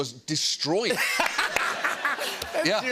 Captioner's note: laughter